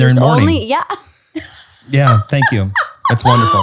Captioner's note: laughs loudly